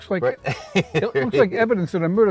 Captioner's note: Todd laughs